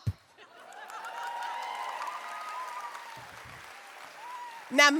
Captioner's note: audience cheers